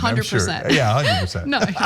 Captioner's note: laugh